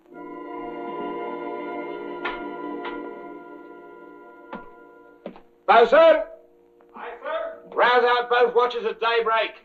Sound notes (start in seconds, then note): 0.0 ominous music; 2.6 door opens; 4.4 footsteps approaching